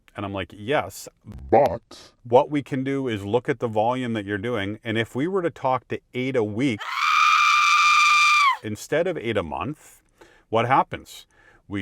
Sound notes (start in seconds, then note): 6.8 sketch yelling